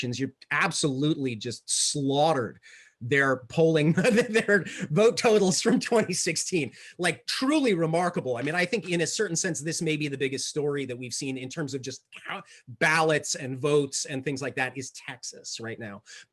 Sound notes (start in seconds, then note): 5.4 laughs